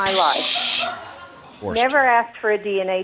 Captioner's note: audience laughing